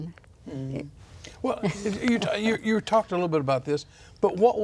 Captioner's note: laughs